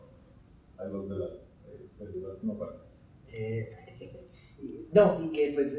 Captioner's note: speaking in Spanish